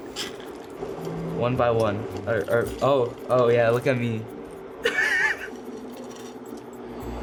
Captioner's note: chuckles